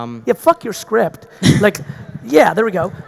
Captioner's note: audience laughing